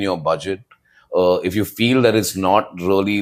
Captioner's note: none